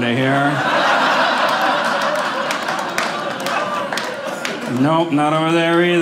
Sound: audience laughing

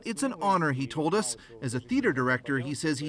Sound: speaking Foreign Language

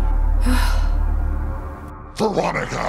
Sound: sigh

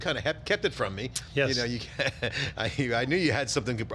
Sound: chuckles

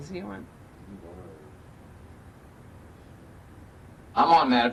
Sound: faintly speaking

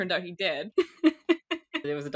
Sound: laughs

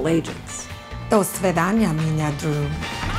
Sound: speaking Russian

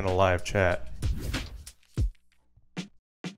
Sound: air whooshing

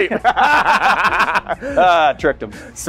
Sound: they laugh

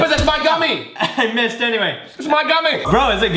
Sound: laughs

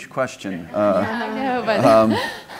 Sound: audience laughing

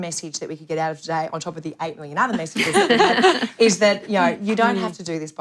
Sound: laughter

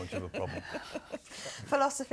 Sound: laugh

